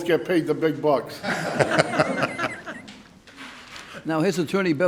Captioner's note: laughing